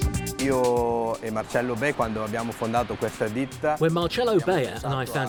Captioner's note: upbeat music; speaks Italian